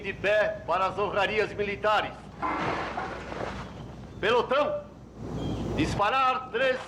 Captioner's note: man Shouting Commands